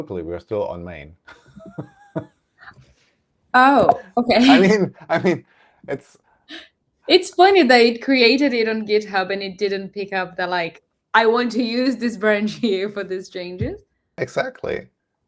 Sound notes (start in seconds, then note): 1.4 laughs